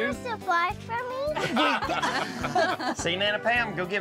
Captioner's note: everyone laughs